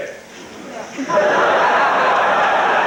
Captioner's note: crowd; crowd Laughs